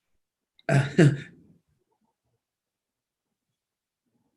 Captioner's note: laughs